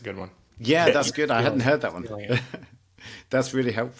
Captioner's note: laughs